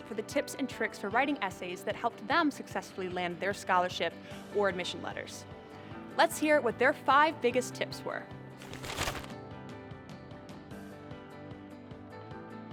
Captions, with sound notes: for the tips and tricks for writing essays that helped them successfully land their scholarship or admission letters. Let's hear what their five biggest tips were. (paper rattling) (light music)